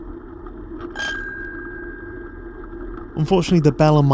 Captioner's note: bell rings